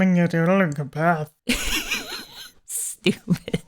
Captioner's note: laughing